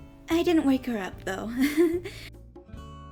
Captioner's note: giggles